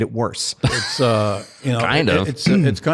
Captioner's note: laughs